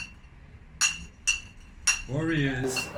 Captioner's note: bottles clinking